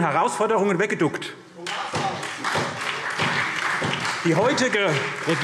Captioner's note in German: Beifall SPD